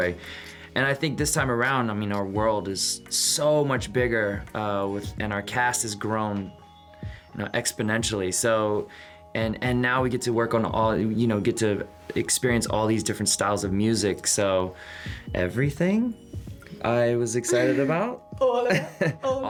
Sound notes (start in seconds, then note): 17.4 chuckles